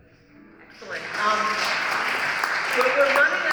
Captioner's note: applause